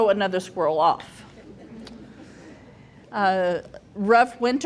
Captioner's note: group chuckles